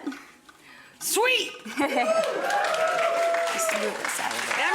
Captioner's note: audience applauding